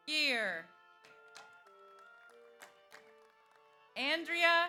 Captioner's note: audience applauds